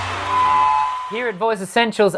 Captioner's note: cheering; microphone screeching